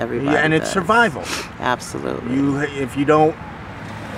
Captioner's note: sniffs